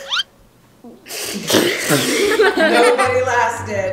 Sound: gasping; laughing

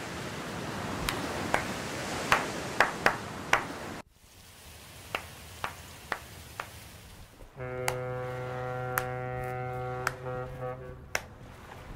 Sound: clap Clap Clap Clap

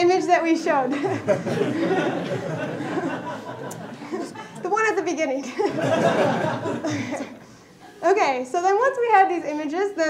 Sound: laughter

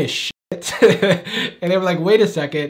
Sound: laughs softly

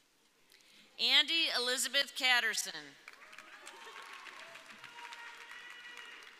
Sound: audience cheering

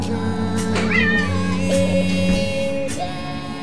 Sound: cat meows

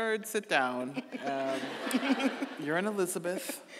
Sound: audience laughing

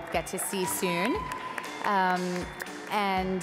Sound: cheering

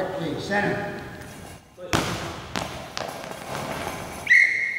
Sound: ball bouncing loudly

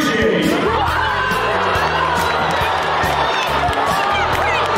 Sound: more booing

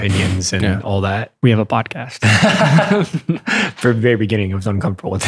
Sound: laughter

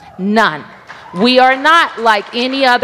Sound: applause

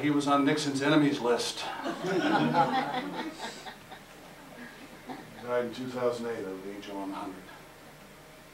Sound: audience Laughter

